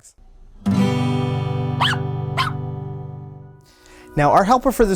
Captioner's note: guitar music; dog barking